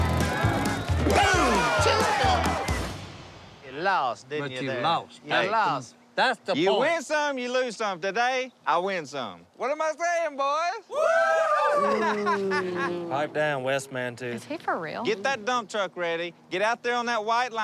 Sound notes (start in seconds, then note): 10.9 cheering; 10.9 booing